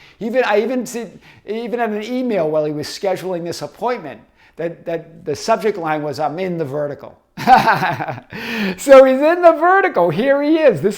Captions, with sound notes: Even in an email while he was scheduling this appointment, that the subject line was, I'm in the vertical. (laughing) So, he's in the vertical, here he is.